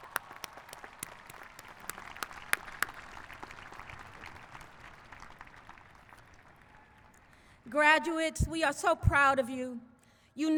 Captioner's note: applause